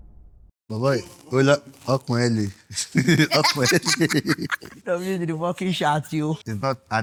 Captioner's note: laughs